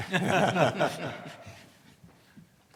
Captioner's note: laughs